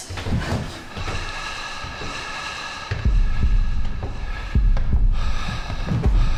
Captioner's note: heavy breathing; footsteps tapping